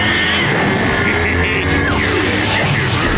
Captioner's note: laughing